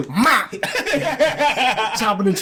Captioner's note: laughing